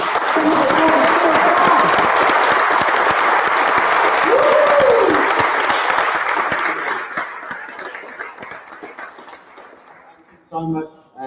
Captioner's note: applause